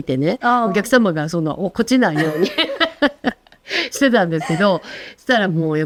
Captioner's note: laughs